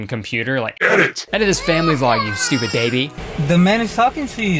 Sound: baby crying

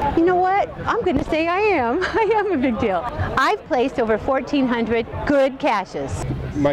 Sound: laugh

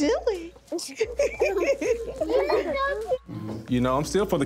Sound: chuckles

